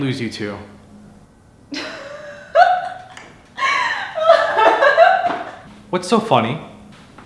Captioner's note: Diane laughing